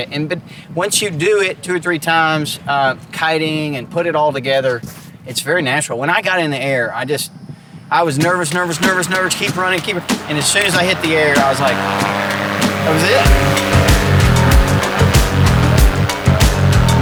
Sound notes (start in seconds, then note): 13.5 engine roaring; 14.4 rock music